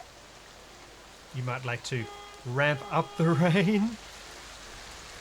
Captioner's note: car Horn